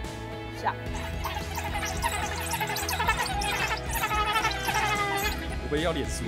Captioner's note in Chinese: 非洲野狗叫聲